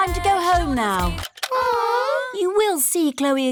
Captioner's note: music stops; all groan